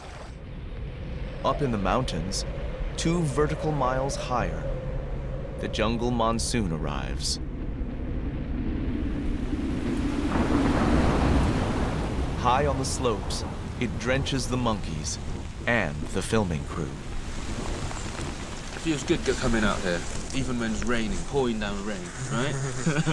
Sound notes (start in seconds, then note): 10.8 thunder rumbles